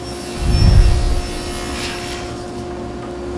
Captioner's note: air whooshes